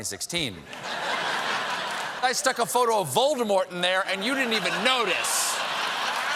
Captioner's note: laughter